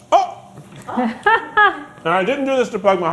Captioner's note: laughing